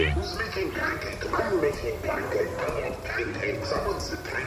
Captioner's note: all at once, excited